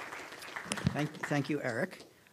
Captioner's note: applause